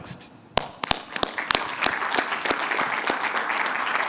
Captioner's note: applause